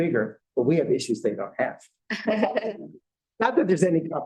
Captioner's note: laughter